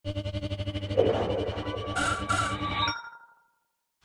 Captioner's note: mechanical noises